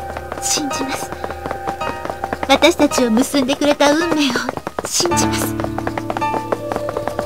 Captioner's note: rain